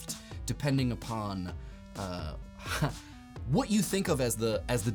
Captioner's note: laughs